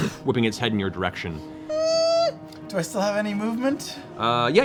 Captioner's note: whimpers